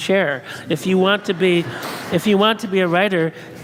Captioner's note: audience laughs